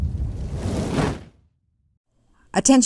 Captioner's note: fire swooshes